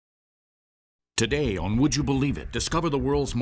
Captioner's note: voiceover